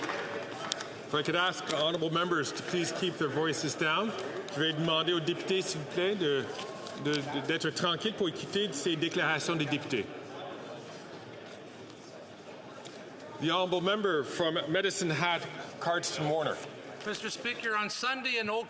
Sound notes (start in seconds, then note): 0.1 some Applause; 9.1 speaking French